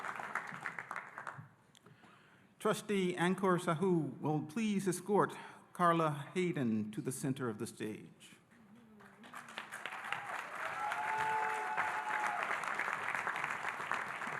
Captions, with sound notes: - Trustee Ankur Sahu will please escort Carla Hayden to the center of the stage. (audience applauding and cheering)